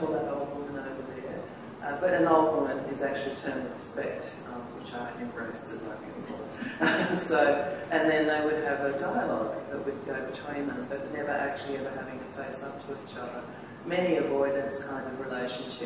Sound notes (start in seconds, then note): 6.6 laughter